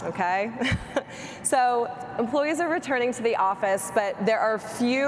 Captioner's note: chuckles